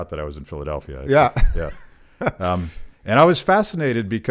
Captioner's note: chuckles